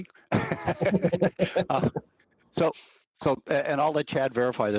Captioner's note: all laughing